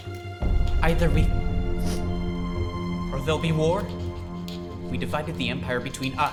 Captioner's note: sniffs